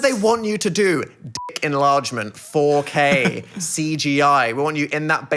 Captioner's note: beeping